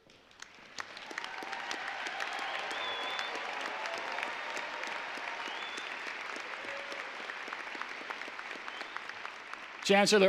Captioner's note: applause